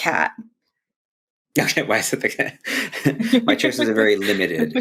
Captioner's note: laughs